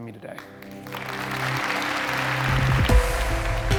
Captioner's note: audience applauding; upbeat music